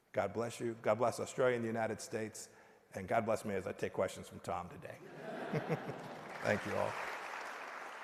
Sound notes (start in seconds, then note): 5.9 applause